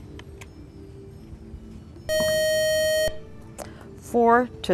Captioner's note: buzzer